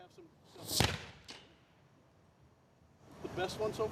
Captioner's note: explosion